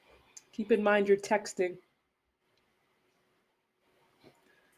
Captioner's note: sotto voce